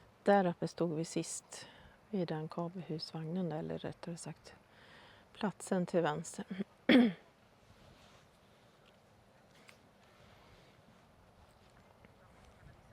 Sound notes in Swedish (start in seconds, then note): 6.9 harklar sig